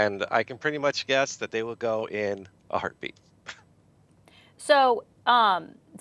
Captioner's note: chuckles